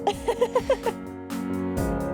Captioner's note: laughs; upbeat music